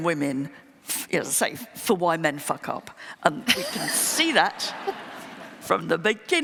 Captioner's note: laughter